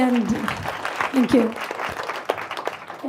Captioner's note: audience applauds